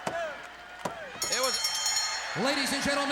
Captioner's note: bell ringing